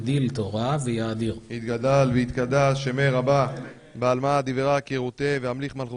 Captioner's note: recites Kaddish